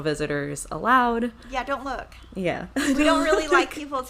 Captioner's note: chuckles